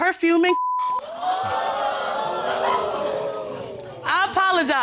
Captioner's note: audience exclaims